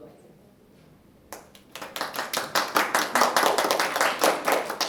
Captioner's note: applause